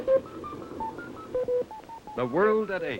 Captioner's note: computer bleeps